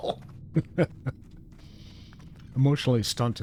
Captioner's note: laughing